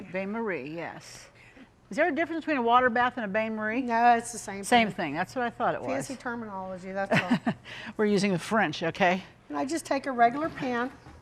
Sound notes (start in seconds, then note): 7.1 laughing warmly